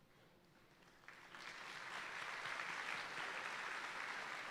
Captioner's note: audience applauding